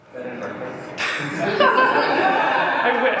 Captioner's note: laughter